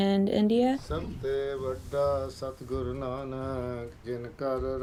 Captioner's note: man praying